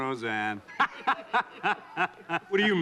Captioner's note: laughing; laughs